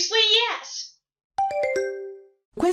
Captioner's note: question ding